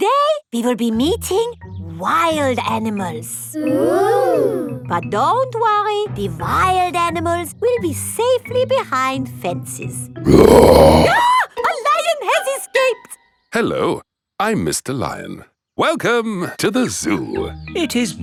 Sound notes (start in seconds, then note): 10.2 roars; 10.3 screams